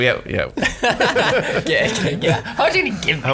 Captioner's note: laughing